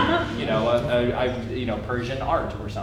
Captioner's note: stammering